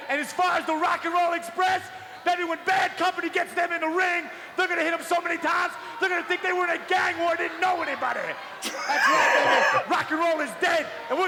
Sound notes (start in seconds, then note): 8.6 Dallas laughs